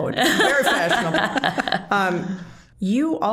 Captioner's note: all laughing